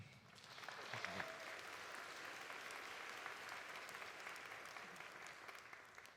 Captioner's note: audience applauding; audience cheering